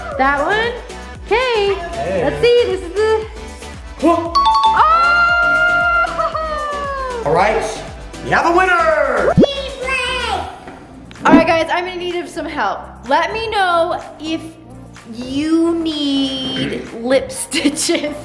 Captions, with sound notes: That one? Okay, let's see. (digital dinging) Oh, ho-oh! (laughing) - All right, we have a winner! - Team Blake! - All right, guys, I'm in a need of some help. Let me know if you need lip stitches. (laughing)